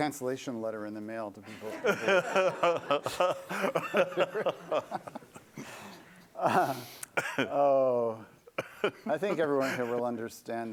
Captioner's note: laughter